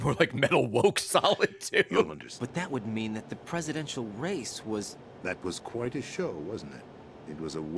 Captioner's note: laughs